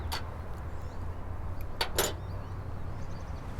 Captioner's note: tools rattle lightly